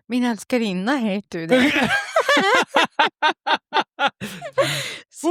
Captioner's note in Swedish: skratt